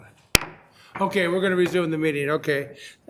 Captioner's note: gavel clanking